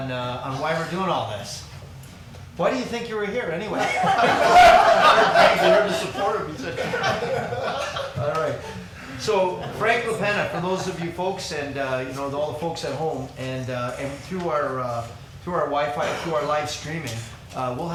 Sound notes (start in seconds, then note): 7.1 crowd laughing